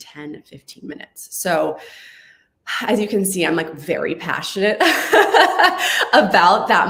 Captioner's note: laughs